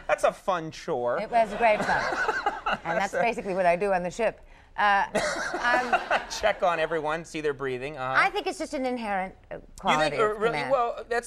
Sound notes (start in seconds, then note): 5.2 Conan laughing